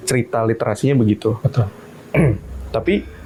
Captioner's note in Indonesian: berdehem